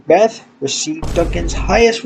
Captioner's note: boom